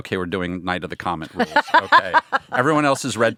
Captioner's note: laughing